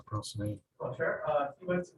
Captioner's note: man speaking